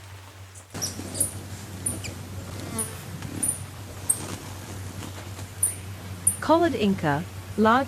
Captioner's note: birds chirping; rainfall; bird chirping